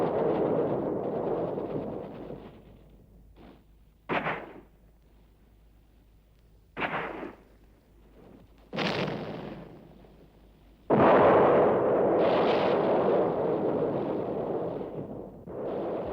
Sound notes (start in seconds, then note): 10.9 explosion